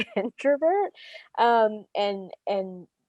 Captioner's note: laughs